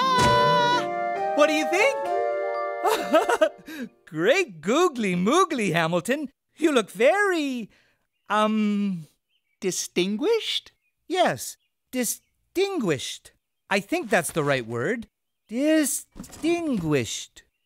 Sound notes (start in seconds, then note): 2.8 chuckling